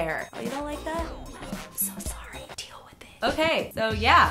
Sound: whispers

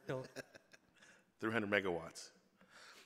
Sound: laughs

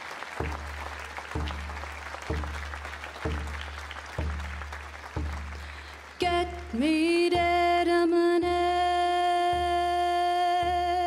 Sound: applause

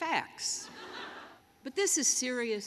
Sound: laughter

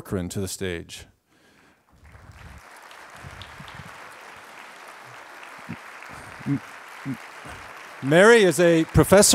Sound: applause

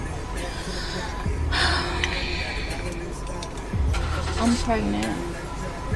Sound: woman sighing

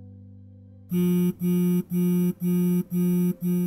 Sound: phone ringing

